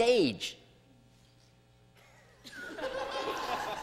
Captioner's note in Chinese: 笑聲